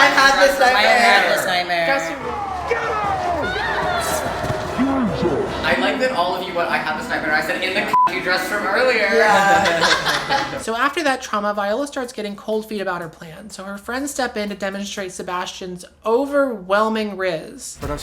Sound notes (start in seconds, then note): 5.7 low-pitched; 9.0 laughs